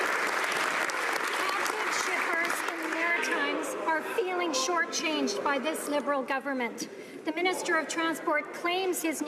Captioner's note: some Applause